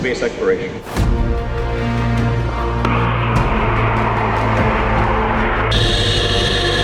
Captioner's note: music/Rocket igniting